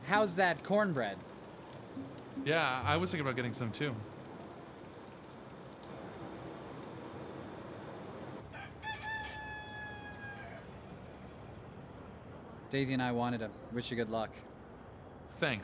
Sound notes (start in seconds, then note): 8.1 rooster crowing; 8.8 birds chirping